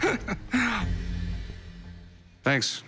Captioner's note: laughs